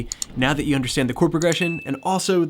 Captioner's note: mouse clicking; bell chiming